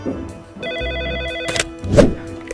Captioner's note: phone rings